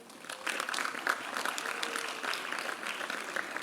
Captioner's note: applause